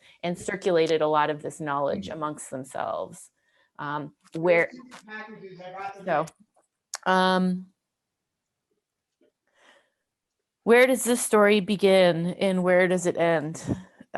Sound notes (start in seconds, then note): 4.3 audio distortion